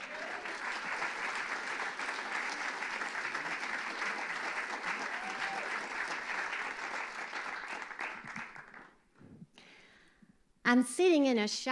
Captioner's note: applause